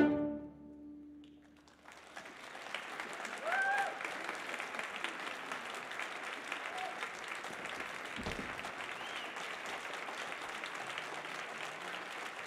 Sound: applause

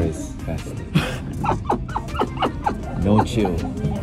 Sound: laughing

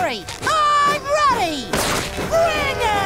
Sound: tearing shirt

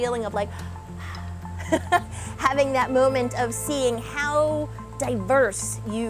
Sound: breathing out

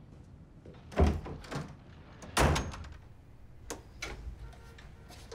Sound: door opening and closing

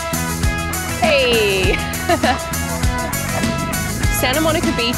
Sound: laughs

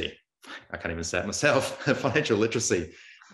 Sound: laughs

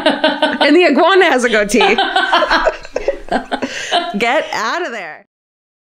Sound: laughter

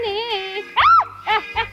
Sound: shout

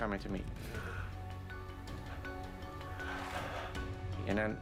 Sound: breathing raggedly

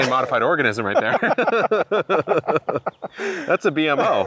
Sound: both laugh

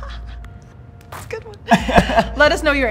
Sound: laughs

